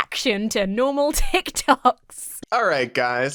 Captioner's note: laughs